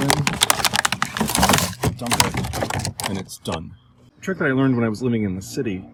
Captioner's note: plastic crunching noise